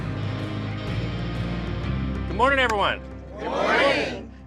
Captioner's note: none